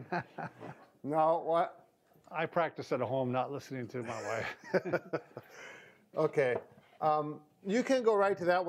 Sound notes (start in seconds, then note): 0.0 laughs; 4.0 both laugh